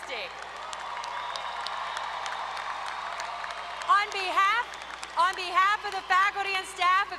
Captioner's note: applause